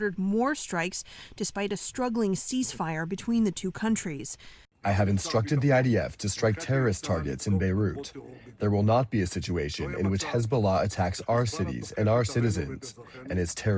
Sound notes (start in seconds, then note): 5.3 through translator